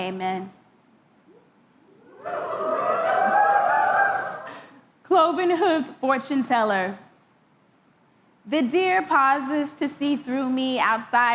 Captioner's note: cheering